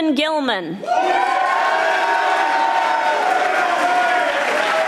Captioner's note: audience applauding